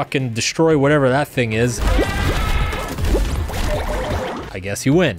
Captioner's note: monster roars